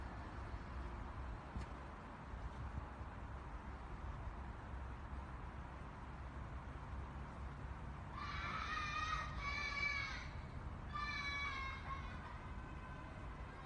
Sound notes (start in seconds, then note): 8.1 kids screaming and crying